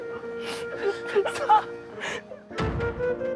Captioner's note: crying from laughing